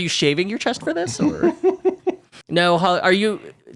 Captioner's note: giggling